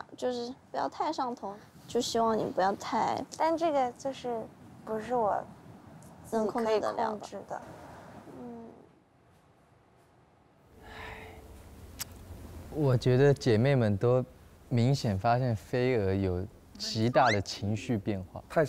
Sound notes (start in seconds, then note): 10.8 sighing